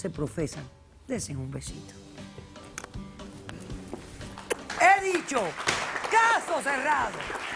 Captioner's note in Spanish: Aplausos